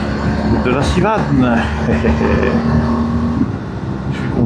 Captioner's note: engine